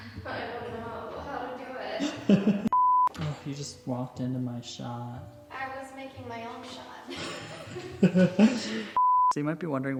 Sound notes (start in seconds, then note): 2.0 laughs; 2.7 "no signal" tone beeps; 7.1 both laugh; 9.0 "no signal" tone beeps